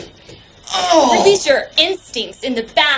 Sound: groans

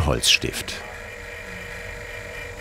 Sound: machine whirring

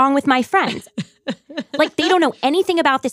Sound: laughs

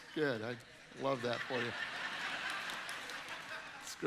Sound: audience laughing

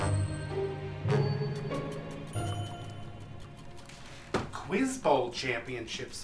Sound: doorbell rings

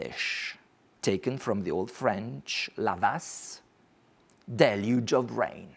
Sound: speaks foreign language

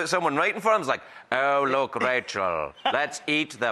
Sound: German accent

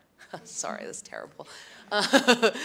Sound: laughs

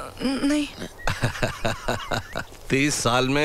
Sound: laughs

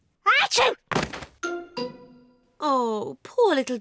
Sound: sneezes

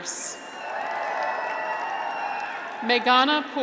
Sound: graduates cheer

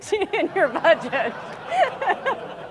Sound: laughs

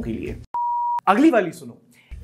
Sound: beep

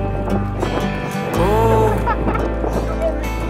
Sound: laughing

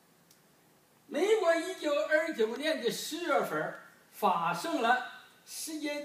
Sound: speaking foreign language

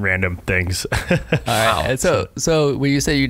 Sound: laughing

